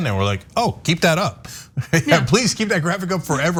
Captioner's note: laugh